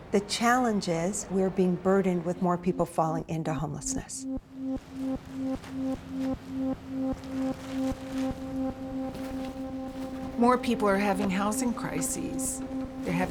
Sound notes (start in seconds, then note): 5.4 bag tearing; 5.4 calming music